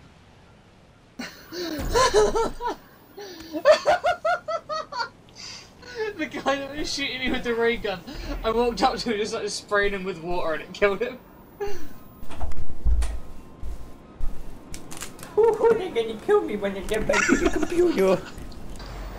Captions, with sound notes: [Mischievous giggles] [Mischievous giggles] [Mischiovious laughter] [Mischiovious laughter] The guy that was shooting you with the ray gun The guy that was shooting you with the ray gun I walked up to him I walked up to him started spraying him with water and it killed him. started spraying him with water and it killed him. Ohhoo dey're gonna kill me when I get back to the compewter! Ohhoo dey're gonna kill me when I get back to the compewter!